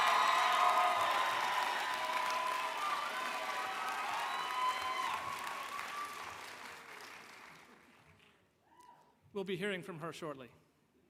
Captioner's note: cheers and Applause